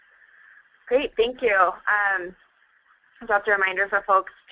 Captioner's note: voiceover